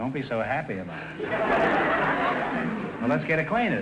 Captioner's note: audience laughter